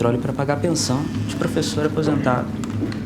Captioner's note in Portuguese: Celular vibrando